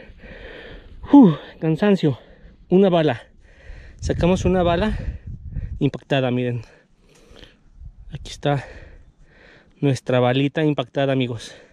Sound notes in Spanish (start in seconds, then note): none